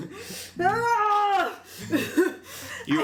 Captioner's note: yells exasperatedly